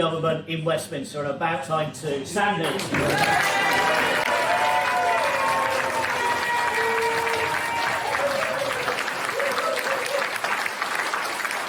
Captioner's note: applause